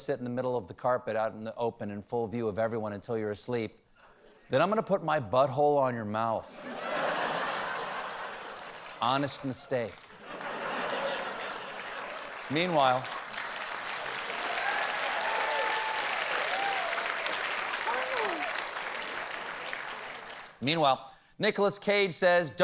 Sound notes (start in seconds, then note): 10.1 laughter; 14.5 cheers and applause